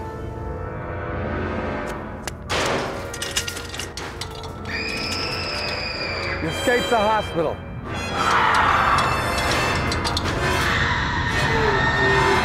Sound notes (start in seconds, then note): 0.2 dark instrumental music; 2.4 rattling; 4.6 screaming; 8.2 dark instrumental music; 10.4 screaming